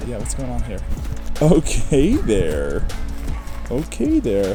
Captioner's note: laughing gently